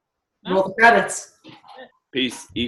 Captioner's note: murmurs